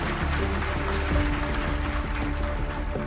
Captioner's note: applause